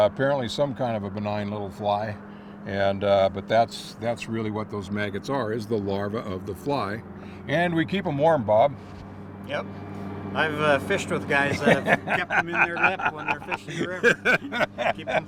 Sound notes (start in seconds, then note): 9.1 laughing